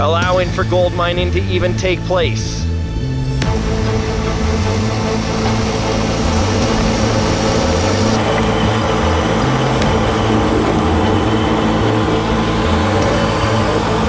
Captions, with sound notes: allowing for gold mining to even take place. (dramatic orchestra music) (machines whirring)